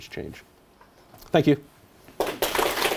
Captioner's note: applause